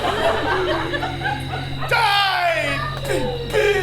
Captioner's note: gasps